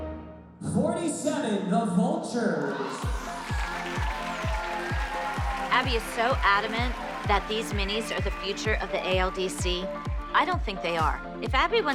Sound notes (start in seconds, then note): 2.5 applause, cheering